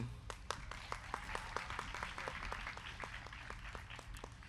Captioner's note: crowd clapping